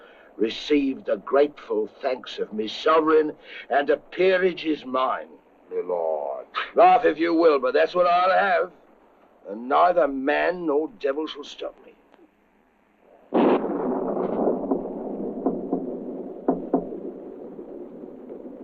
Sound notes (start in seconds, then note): 6.5 chuckles; 13.2 thunder rumbling; 14.6 knocking on door